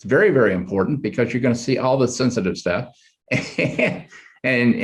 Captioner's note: chuckles